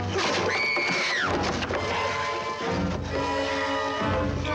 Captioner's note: Nicole screams